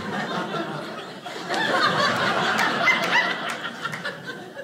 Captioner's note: audience laughing